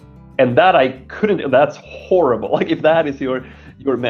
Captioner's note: laughing